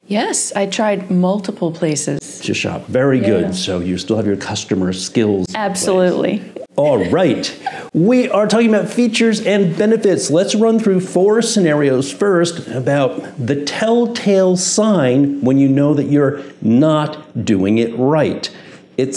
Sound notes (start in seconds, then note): 6.6 chuckling